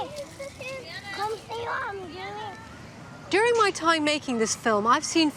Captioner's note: children chattering